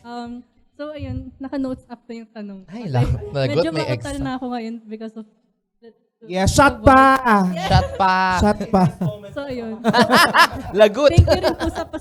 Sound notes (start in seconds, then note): 9.8 laughs; 9.8 laughter and clapping